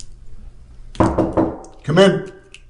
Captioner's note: knocking